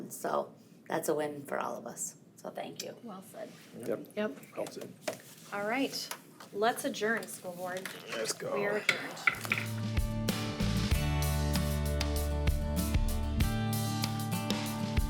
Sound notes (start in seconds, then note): 9.2 gavel pounds; 9.4 bright music